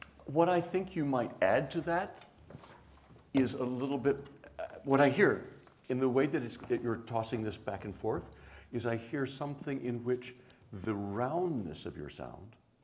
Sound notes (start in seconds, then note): none